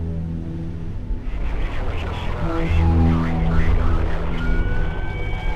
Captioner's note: voices over state trooper radio